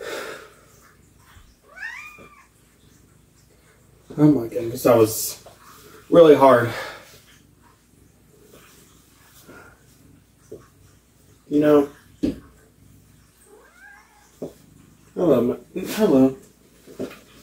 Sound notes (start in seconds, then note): 0.0 exhales; 1.6 meows